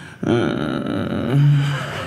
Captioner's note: annoyed sound